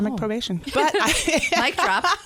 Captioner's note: laughter